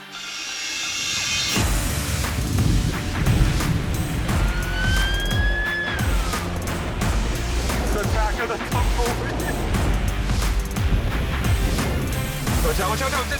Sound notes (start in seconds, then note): 1.7 loud thunder; 4.4 car siren